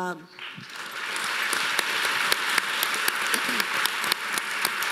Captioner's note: audience applauding